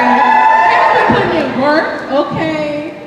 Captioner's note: cheers